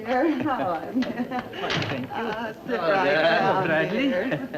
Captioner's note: group chatting